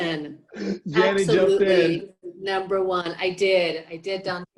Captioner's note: chuckles